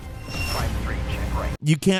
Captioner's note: comms radio chatters